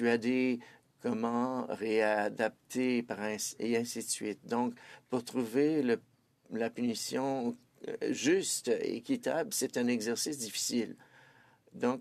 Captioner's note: speaking French